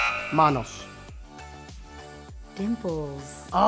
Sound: speaks in foreign language

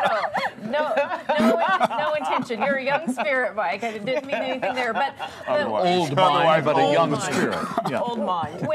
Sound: laughter

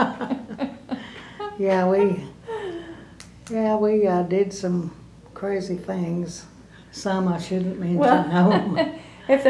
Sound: laughter

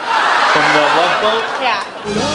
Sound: laughing

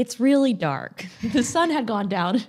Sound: both laugh

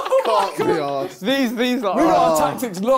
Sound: both laughing; both mumbling

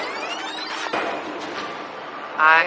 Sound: tape rewinding

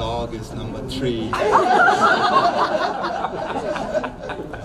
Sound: crowd laughs

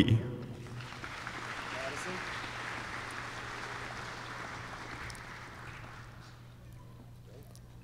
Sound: applause

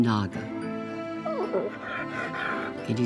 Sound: whimpering

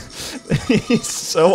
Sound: laughing

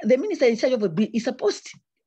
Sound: audio distorts

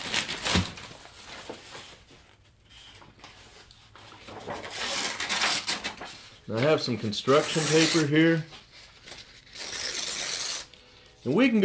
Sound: sound of paper shredding

